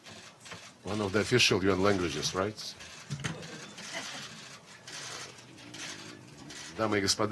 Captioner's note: laughter